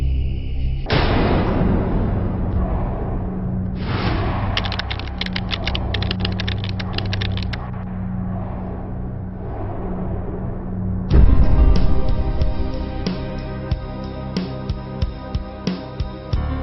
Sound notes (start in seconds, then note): 4.6 keys tapping; 12.1 suspenseful music